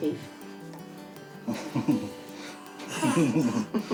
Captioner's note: both chuckle